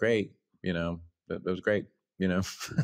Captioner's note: laughs